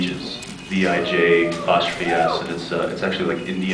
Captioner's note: scattered cheers